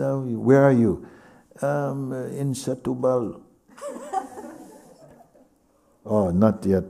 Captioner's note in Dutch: gelach